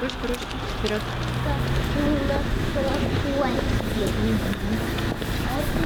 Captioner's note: road noise